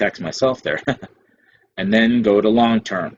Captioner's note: chuckles